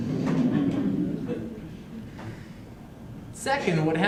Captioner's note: laughter